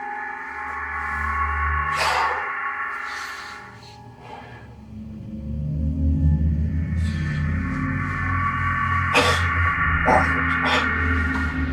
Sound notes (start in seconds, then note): 1.7 Benz exhaling